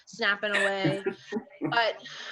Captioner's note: laughing